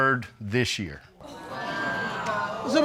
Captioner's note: audience exclaiming